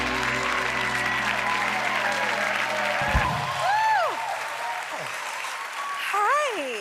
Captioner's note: cheers and applause